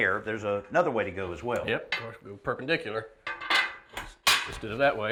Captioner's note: none